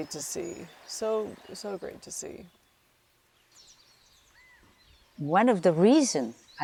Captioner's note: birds chirping